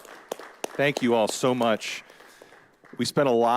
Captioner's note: all applauding